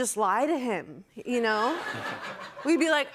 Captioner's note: laughter